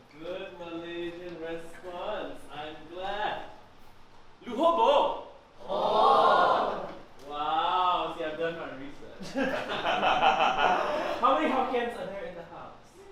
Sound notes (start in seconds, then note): 4.4 hokkien; 9.2 laughs